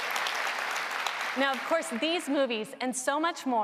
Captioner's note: applause